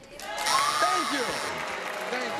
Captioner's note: cheering